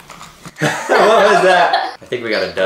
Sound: yells; laughing

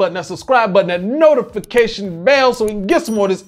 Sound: bell ringing

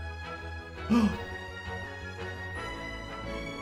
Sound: Phil gasps

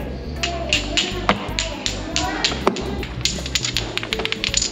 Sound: pieces clacking

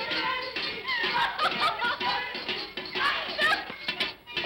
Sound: giggling & laughter

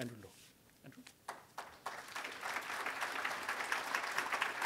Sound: applause

